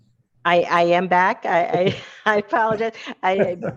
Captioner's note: laughs